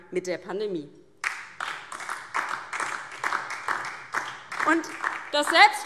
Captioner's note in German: Beifall DIE LINKE und SPD